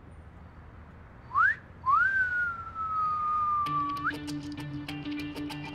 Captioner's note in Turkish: Islık çalıyor